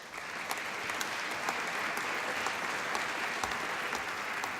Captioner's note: applause